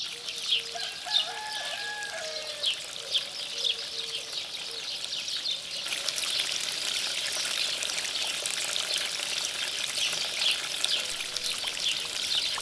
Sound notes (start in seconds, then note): 0.3 water trickling; 0.7 rooster crowing; 2.0 birds chirping; 3.2 water trickling